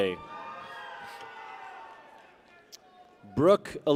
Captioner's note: people cheer